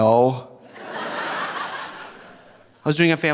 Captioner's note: audience laughing